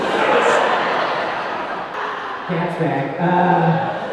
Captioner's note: audience laughing